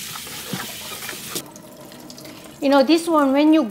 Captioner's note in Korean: 물 떨어지는 소리